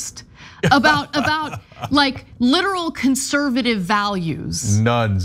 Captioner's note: laugh